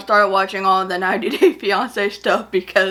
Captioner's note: laughs